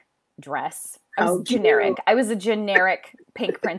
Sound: laughs loudly

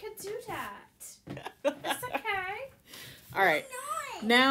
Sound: laughter

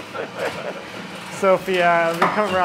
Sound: both laugh

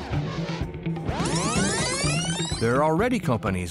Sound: video rewinding

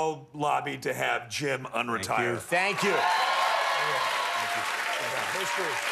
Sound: cheers and applause

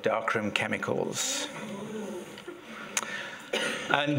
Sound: audience audibly react

